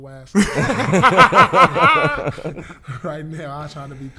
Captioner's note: laughing